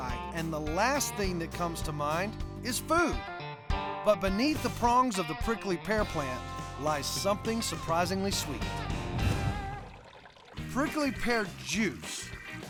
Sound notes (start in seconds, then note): 9.1 pouring